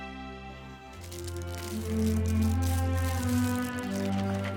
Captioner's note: paper rustling